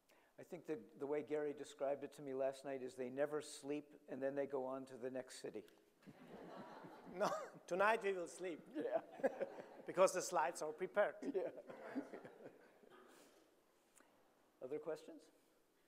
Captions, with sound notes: - I think the way Gerry described it to me last night is they never sleep and then they go on to the next city. (audience laughing) - No, (chuckling) tonight we will sleep. - Yeah. (chuckling) (audience laughing) - Because the slides are prepared. - Yeah. (audience laughing) Other questions?